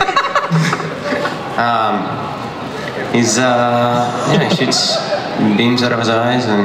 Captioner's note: panel members laugh; laughs